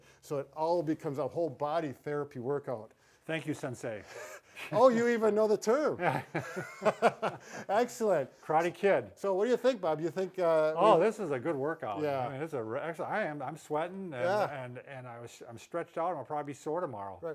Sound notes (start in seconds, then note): 4.2 chuckles; 6.0 both laugh